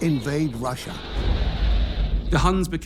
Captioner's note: crowd cheers